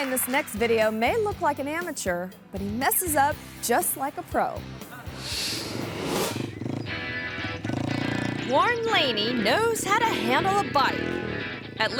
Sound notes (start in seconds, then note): 0.0 audience clapping; 4.9 audience laughing; 5.1 motorbike revving; 6.6 upbeat rock music